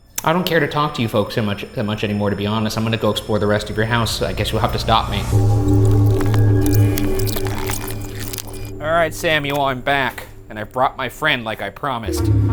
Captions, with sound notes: - I don't care to talk to you folks that much anymore, to be honest. I'm gonna go explore the rest of your house, so I guess you'll have to stop me. (deep ominous music) (tape fast-forwarding) Alright, Samuel, I'm back, and I've brought my friend like I promised.